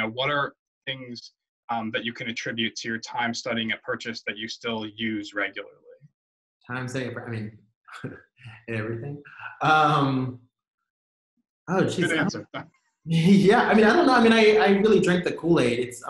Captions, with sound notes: what are things that you can attribute to your time studying at Purchase that you still use regularly? - Time studying, I mean. (chuckles) Everything. - Good answer. (laughs) - Yeah, I mean, I don't know. I really drank the Kool-Aid.